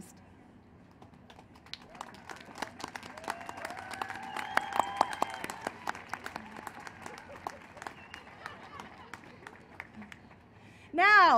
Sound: cheering and applause

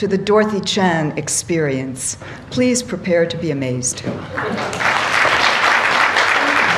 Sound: applause

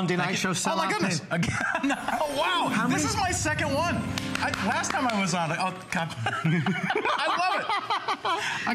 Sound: laughter

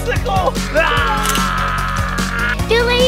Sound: all growl

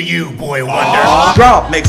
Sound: awwww!

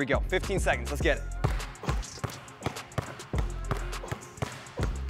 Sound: ball bouncing

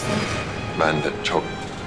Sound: Akif external voice

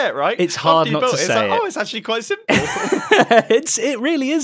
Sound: laughing

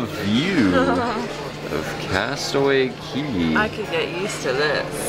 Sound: laughing

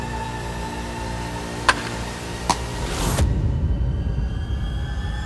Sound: flipping

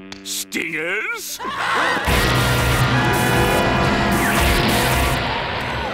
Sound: screaming, zapping

